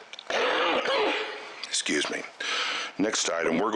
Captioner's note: coughs